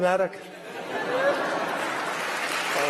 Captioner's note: laughter and applause